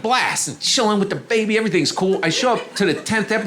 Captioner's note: audience laughing